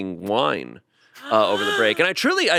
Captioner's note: she gasps